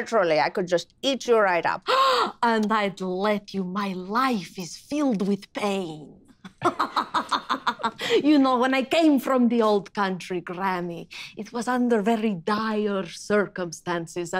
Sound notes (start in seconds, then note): 1.8 gasps; 6.4 laughing